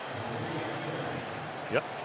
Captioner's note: pa announcement